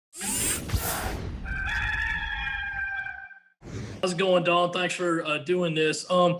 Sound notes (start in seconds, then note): 1.4 cock crows